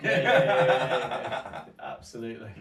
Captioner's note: both men laugh